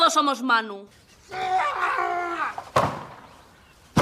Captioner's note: yelling